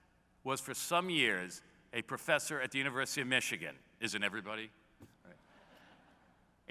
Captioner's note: laughter